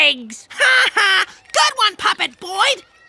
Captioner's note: laughing